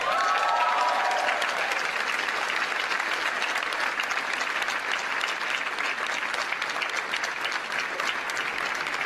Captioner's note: cheers & applause